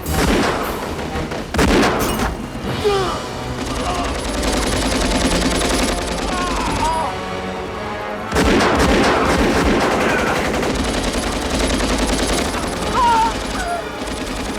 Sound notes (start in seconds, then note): 2.8 groans; 6.2 groaning